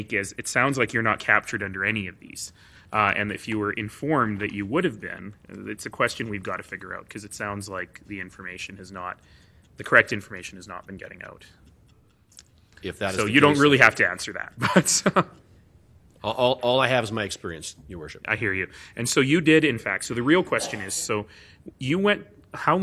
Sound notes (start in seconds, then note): 14.6 laughter